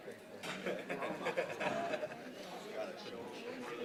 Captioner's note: laughing